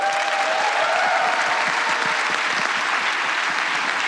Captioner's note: applause